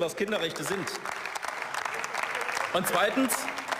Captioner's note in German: Beifall